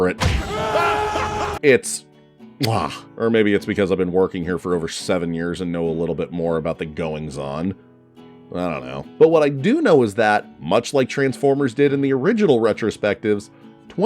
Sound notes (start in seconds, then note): 0.2 screams; 0.7 cackling; 2.6 kisses